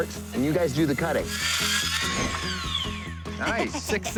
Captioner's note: saw buzzes